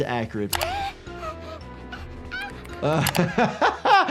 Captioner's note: Flaky gasping; laughs